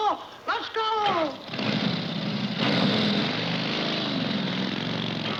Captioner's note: motorcycle engine revving